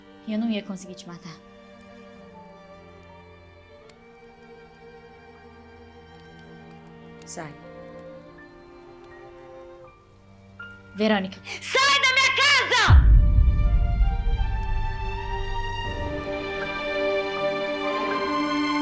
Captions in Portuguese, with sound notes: E eu não ia conseguir te matar. Sai. Verônica... Sai da minha casa! [estrondo grave] [trilha dramática]